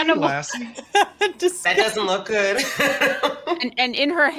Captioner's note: laughs